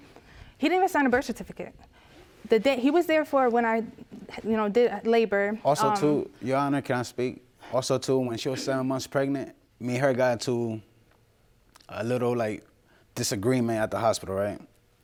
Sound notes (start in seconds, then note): none